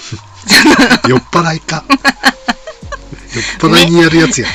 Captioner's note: laughs